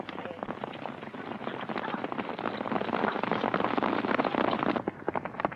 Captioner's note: hooves clomping